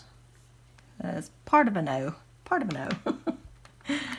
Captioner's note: giggles